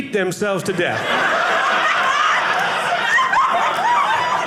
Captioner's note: audience laughing